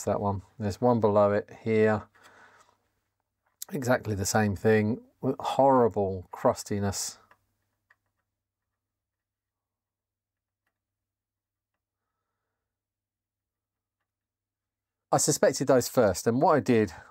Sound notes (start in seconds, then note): 7.2 clicking